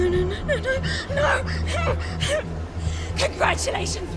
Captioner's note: grunting